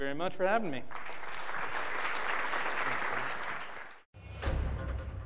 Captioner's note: applause; upbeat drumming